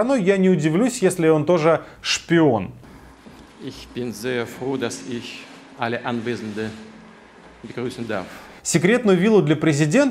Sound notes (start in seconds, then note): 3.0 in German